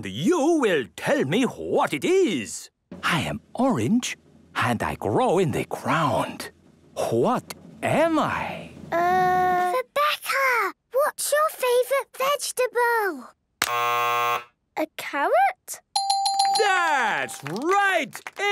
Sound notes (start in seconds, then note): 9.6 whispering; 13.6 buzzes; 15.9 dinging